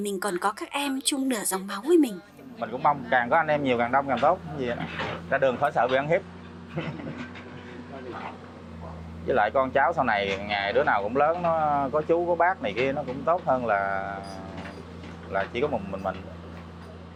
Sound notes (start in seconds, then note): 6.7 laughing